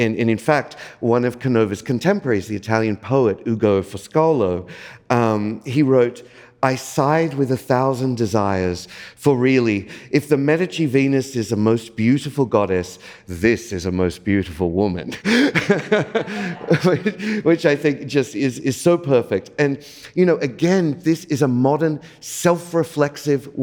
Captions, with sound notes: And, in fact, one of Canova's contemporaries, the Italian poet Ugo Foscolo, he wrote, "I sighed with a 1,000 desires, for really, if the Medici Venus is the most beautiful goddess, this is a most beautiful woman." (laughs) Which I think just is so perfect. And again, this is a modern self-reflexive